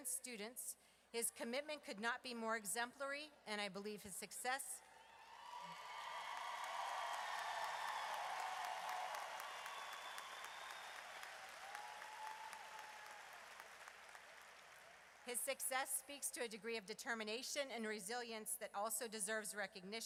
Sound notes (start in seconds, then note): 4.3 audience cheers